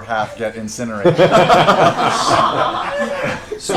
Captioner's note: laughter